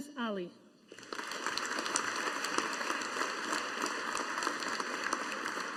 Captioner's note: audience applauding